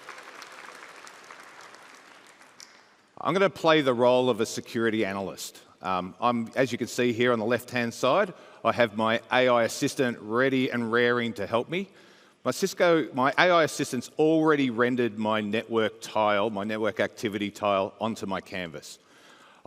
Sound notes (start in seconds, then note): 3.5 applause